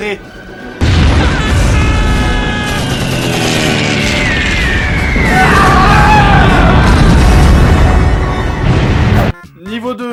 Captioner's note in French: Explosions, cris, musique épique